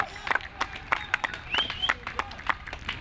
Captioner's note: clapping